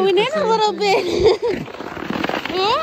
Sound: laughs

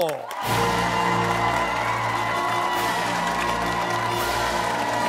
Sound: cheers and applause

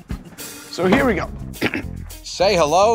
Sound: clears throat

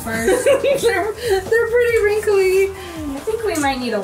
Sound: laughing

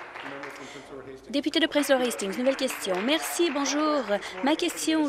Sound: applause

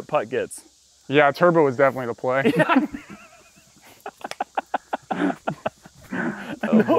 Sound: laughter

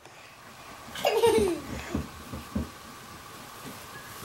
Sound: giggles

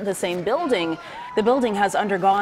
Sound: cheers

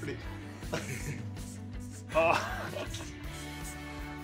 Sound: giggling

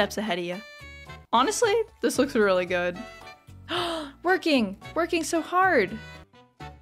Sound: gasp

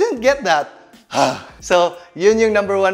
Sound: grunts

